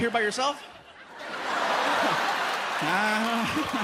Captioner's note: laughter